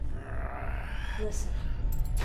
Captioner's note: Brocheet growls